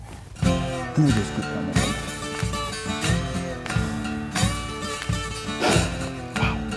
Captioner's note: sighs